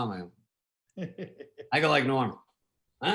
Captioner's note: laughing